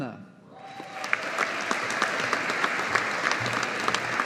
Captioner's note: audience applauding